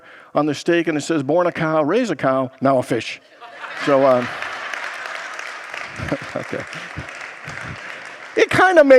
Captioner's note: congregants laugh